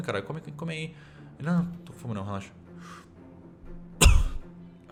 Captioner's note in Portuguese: tosse